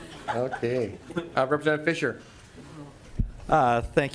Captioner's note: laughing